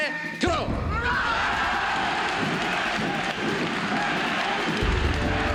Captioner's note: crowd chanting "F.L.Q."